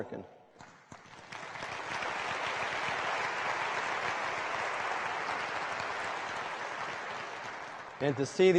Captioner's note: applause